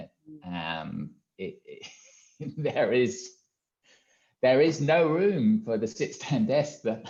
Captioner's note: laughs